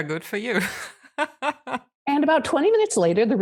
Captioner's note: laughs